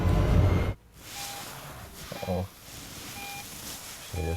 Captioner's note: car beeping